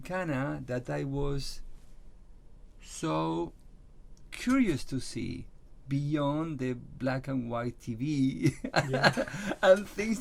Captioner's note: laughs